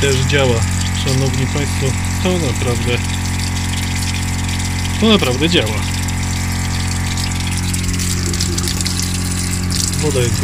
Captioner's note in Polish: odgłos pompy wody